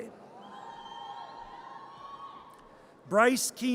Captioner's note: audience cheers